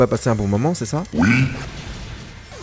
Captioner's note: ZeratoR subscription sound